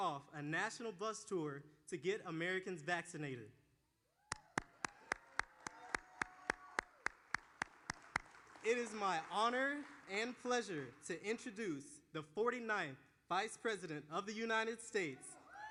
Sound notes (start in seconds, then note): 8.5 applause